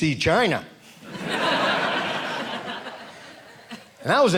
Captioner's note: audience laughing